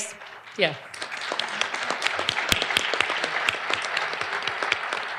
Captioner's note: audience applauding